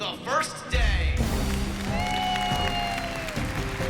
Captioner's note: applause